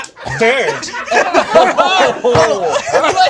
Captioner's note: group laughs